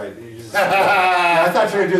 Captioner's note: laughing